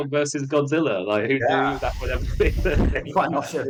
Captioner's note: laughs